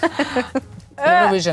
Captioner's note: laughing